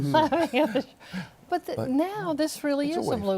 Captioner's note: laughter